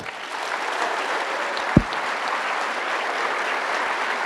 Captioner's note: audience applauding